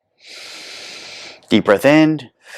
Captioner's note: inhales; inhales and exhales